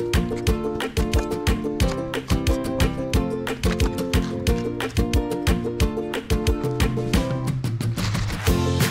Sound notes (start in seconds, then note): 0.1 knife chopping